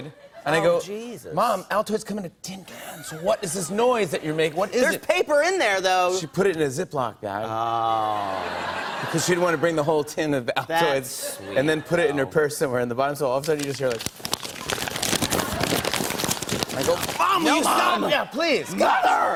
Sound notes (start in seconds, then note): 13.3 paper rustling